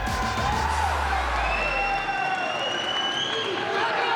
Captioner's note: audience cheering